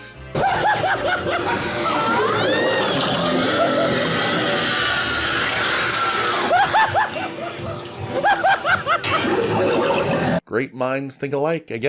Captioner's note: me, cackling like a madman